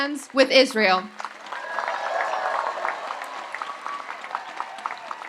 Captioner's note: audience applauds and cheers